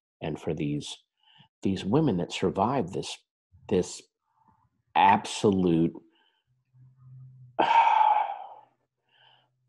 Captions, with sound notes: and for these women that survived this, this absolute, (breaths deeply)